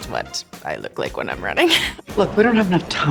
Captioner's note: laughs